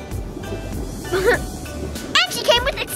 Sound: laughs

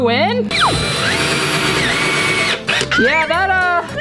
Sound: drilling sound

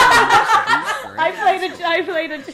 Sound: all laughing

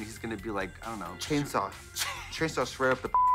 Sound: laughs; beep

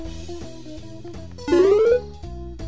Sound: bloop

